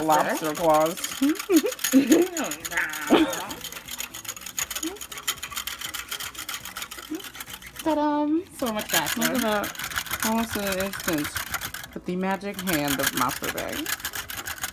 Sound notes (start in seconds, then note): 1.1 chuckles; 2.3 makes "lobster" noises